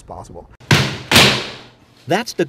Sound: hammering

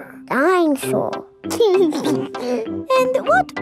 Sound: giggles

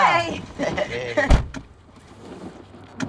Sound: chuckles

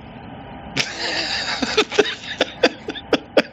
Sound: laughing

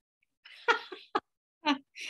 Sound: laughs

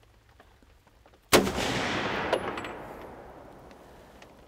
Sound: gun fires

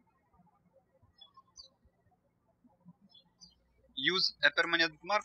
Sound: birds chirping

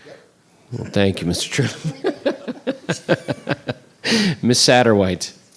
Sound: laughs

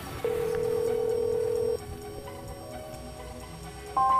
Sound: phone ringing

